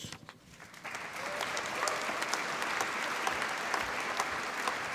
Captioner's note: applause